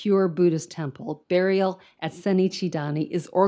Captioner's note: speaks in foreign language